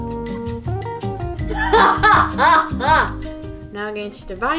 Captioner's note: pleasant music; laughs